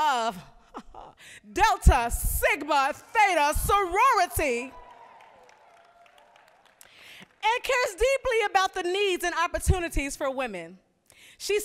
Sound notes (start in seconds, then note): 4.6 applause